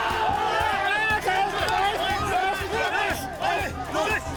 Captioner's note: applause